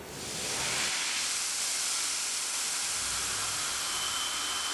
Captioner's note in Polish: syczenie frezarki